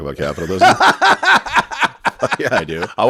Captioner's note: laughs